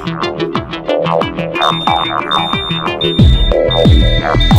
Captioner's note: Alarm blaring